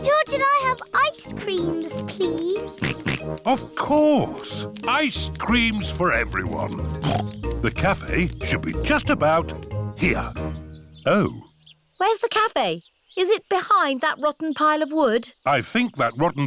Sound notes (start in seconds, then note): 3.6 snorts